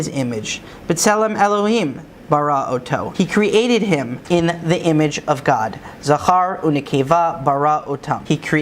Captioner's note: Hebrew